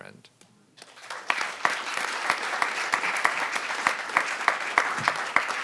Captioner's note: audience applauding